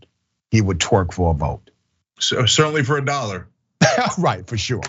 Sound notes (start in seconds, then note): 3.8 laugh